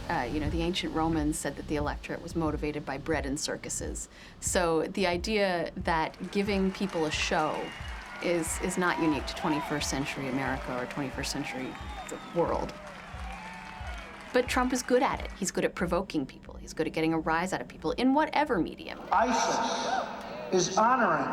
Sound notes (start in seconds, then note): 3.5 crowd cheers